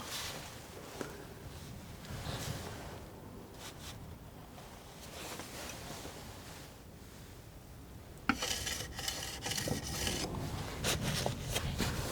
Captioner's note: tapping